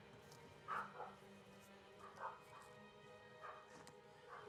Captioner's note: dog barking